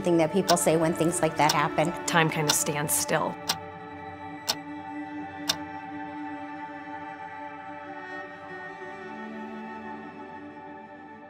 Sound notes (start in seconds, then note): 2.4 clock ticking; 7.1 gentle music